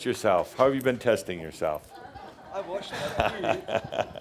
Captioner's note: laughter as wipes off the microphone